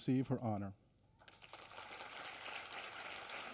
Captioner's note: applause